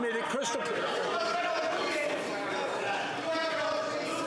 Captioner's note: yelling